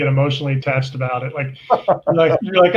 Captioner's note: laughs